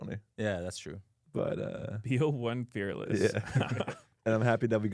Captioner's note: laughs